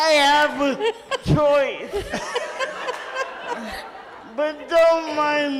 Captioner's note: audience laughs